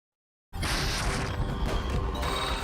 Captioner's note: explosion